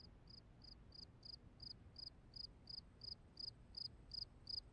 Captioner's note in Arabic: زقزقة لعبة الكريكيت